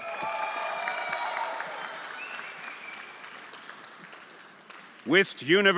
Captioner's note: everyone applauding and cheering